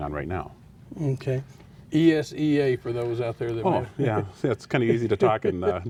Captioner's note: laughs